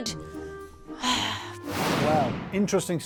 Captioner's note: sighs